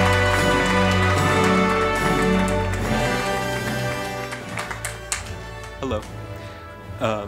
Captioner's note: applause